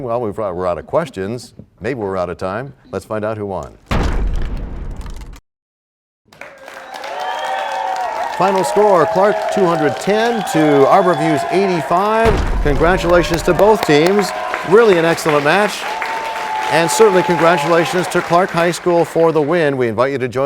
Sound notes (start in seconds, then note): 4.9 crashing sound; 6.2 applause